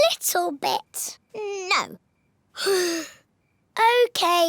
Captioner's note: sighs